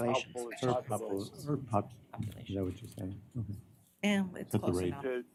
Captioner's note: indistinct chatter